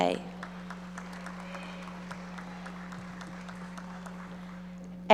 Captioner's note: audience applauding